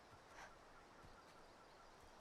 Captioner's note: birds chirping